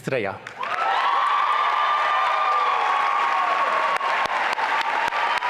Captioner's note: sustained applause and cheering